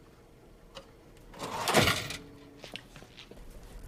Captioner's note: drawer slams